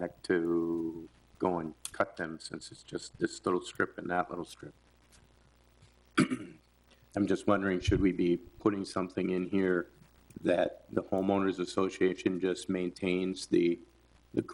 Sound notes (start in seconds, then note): 6.2 man clears throat